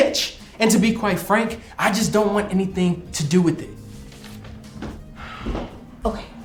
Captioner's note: sighing